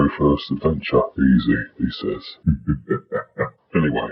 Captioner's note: laughs